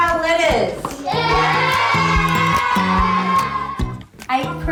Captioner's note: cheering